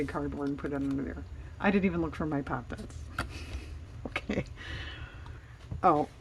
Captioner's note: laughs